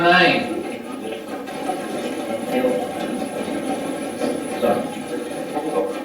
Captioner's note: static playback transmitting